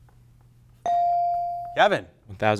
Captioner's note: buzzer chimes